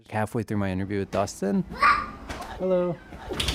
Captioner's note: child’s voice